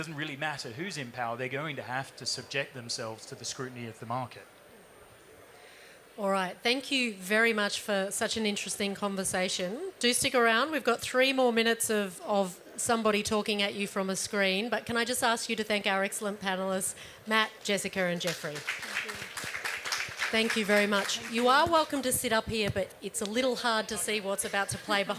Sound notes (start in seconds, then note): 18.2 applause